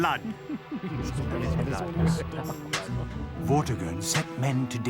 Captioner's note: magicians chuckling